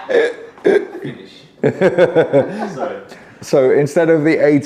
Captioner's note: laughing